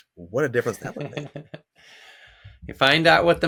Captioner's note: laughs